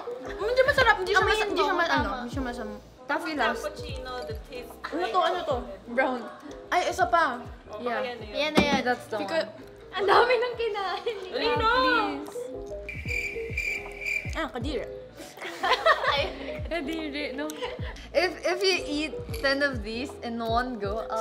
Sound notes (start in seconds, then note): 12.8 cricket noises; 15.4 all laughing